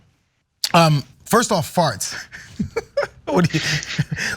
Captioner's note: laugh